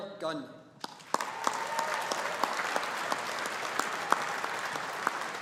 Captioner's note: audience applauding